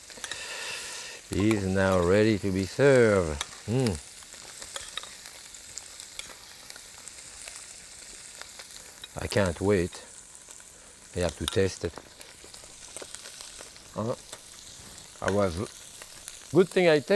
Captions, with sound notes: is now ready to be served. Hmm. (pan sizzling continues) I can't wait. I have to taste it. It was a good thing I tasted it